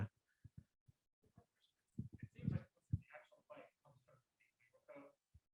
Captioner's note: speaking faintly off mic